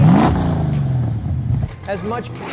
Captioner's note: engine roars